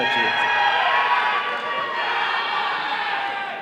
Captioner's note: all cheering